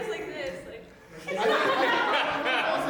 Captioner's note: group laughing